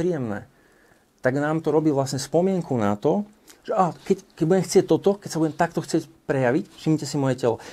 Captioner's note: winces